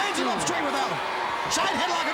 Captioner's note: crowd cheering